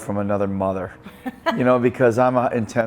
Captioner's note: laughs